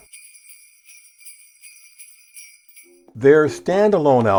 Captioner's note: bells jingling